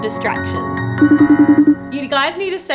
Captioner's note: phone ringing